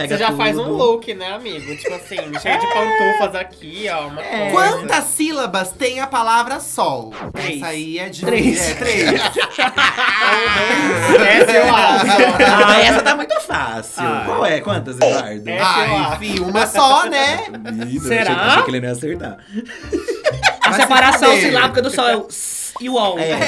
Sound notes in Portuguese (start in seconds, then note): 11.0 risos